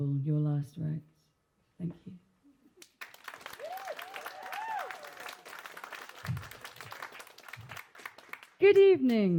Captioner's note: applause